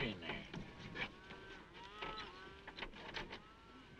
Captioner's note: cows mooing